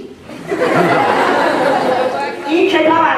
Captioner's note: laughter